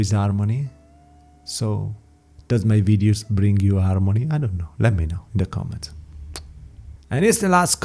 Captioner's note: kiss